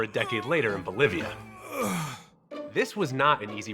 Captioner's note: faux moaning